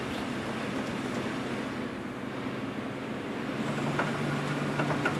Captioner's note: machine whirring